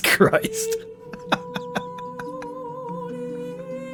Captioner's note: sad laughs